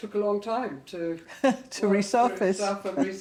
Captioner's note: chuckling